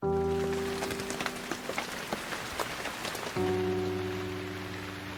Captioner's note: sombre piano music; rain hitting glass